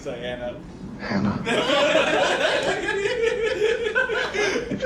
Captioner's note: and friends laughing